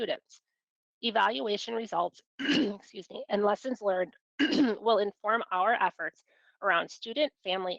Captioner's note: coughs